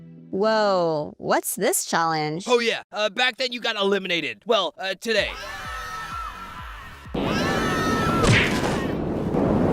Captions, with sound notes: Whoa… what’s this challenge? Oh yeah, uh, back then you got eliminated– well, uh, today. [DISTANT SCREAMING] [SCREAMING]